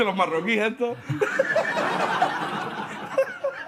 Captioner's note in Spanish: Risas